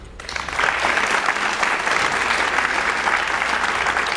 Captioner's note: audience applauds